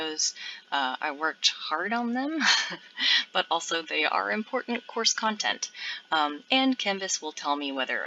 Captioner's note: laughs